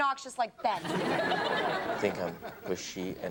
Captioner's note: audience laughs